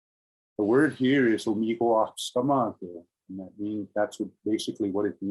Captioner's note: speaking in indigenous language